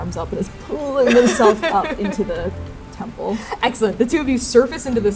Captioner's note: laughing